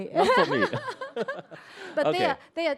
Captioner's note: both laugh